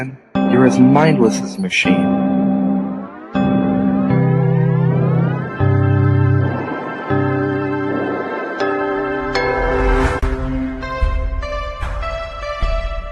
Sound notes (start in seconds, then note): 5.7 staff hums; 8.9 music swells